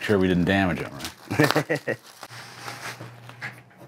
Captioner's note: laughs